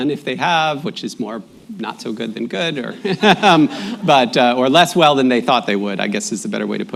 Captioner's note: laughter